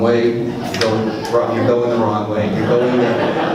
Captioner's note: audience laughs